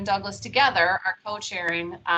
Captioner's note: none